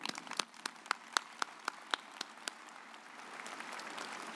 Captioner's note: audience applauds